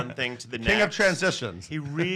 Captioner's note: laughs